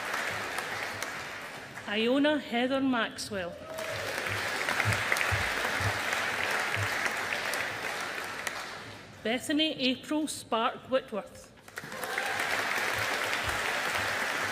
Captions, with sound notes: Iona Heather Maxwell. (AUDIENCE APPLAUDING) Bethany April Spark-Whitworth. (AUDIENCE APPLAUDING)